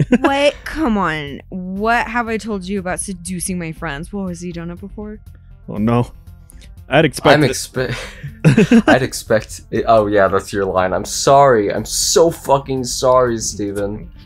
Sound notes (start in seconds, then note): 7.9 giggles